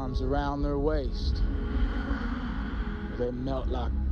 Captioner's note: woman sighing